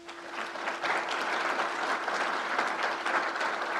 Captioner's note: crowd applauds